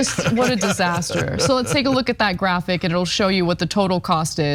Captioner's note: laugh